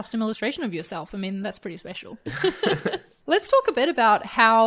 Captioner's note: laughing